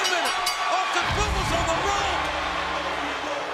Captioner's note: bell rings; theme music plays